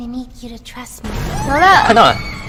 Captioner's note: Poppy Screams